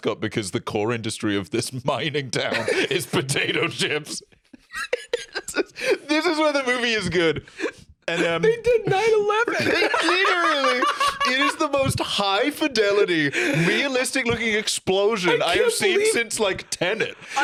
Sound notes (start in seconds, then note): 4.5 laughing; 9.6 laughing